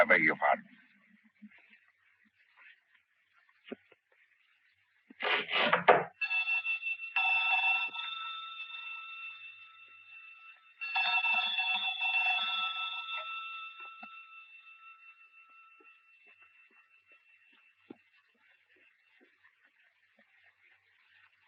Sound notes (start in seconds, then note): 5.6 string scrapes; 6.7 bell ringing